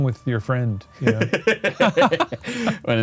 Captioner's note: laughs